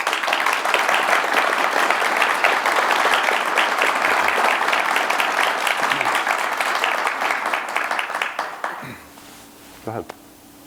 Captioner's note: applause